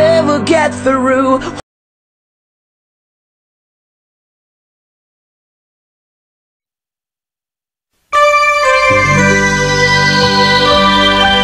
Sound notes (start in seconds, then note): 1.8 silence; 8.1 nostalgic music plays to the tune